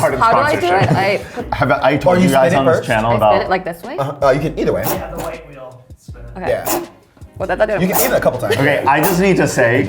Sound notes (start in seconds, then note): 0.0 laughs; 6.6 wheel clicking